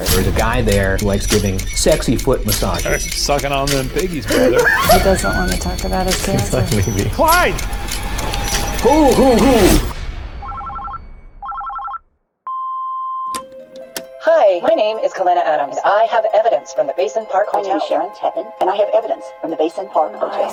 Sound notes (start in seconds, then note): 11.4 phone beeps; 11.4 phone ringing